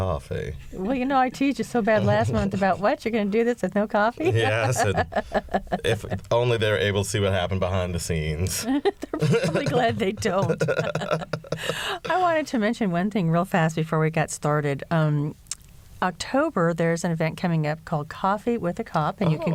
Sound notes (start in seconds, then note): 4.2 laughter; 8.6 laughter